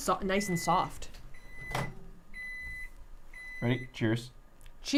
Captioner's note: microwave beeping